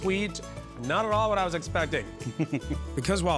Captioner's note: laughing